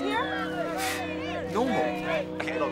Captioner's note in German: Leute jubeln; schnauft